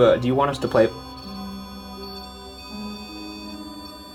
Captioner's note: EMF beeping